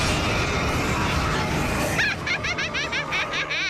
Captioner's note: laughs evilly